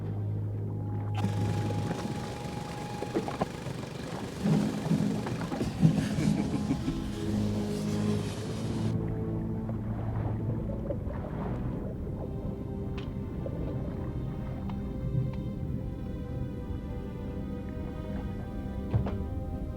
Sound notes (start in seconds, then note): 5.4 laughs